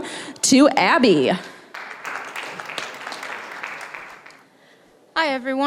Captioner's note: applause